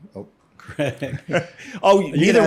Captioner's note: laughs